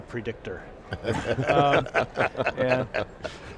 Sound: laughing

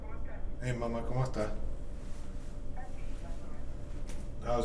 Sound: foreign language

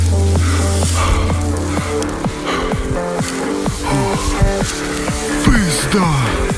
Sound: breaths heavily

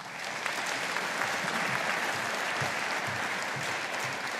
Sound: audience applauding

